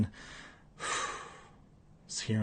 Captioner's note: exhales